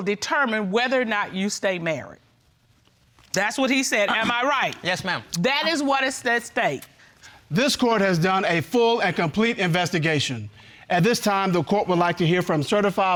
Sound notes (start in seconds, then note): none